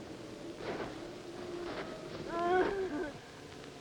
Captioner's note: crying